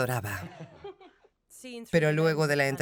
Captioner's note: laughs loudly